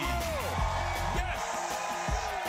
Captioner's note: crowd cheering